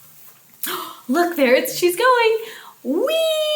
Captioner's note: wheezing sound